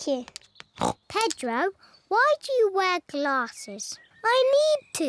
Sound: snorts

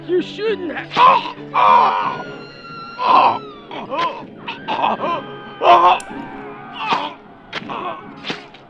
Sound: SFX: Stabbing noises

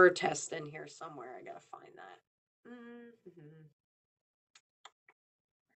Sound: hums softly

